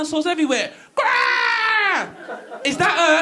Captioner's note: dinosaur screeching